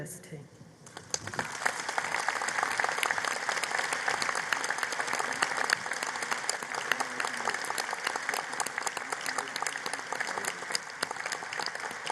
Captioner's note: applause